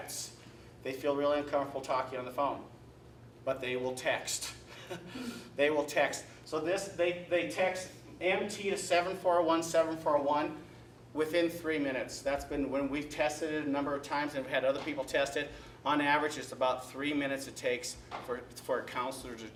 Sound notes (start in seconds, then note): 4.6 chuckle